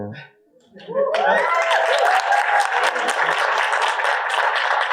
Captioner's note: audience applauding